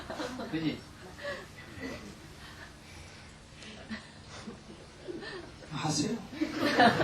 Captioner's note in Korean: 청중 웃음